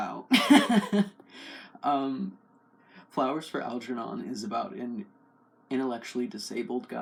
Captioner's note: laugh